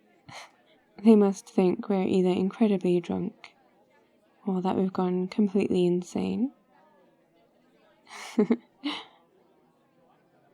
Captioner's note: laughs